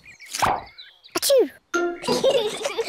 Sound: sneezes; both giggle

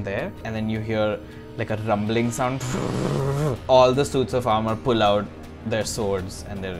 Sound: rumbles

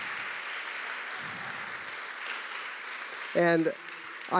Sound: applause

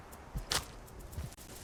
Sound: smack

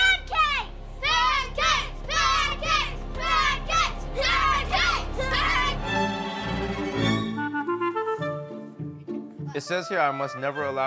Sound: kids chanting "pancakes"

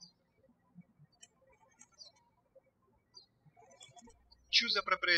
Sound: birds chirping

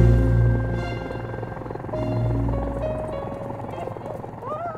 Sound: propellers hum

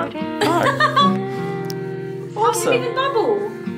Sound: laughs

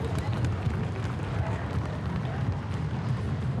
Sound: footsteps rumble

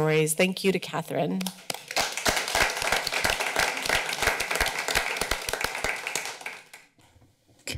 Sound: applause

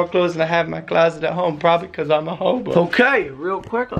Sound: with crying voice

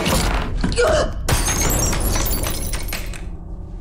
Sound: grunting, shattering

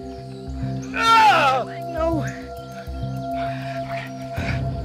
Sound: groaning in pain

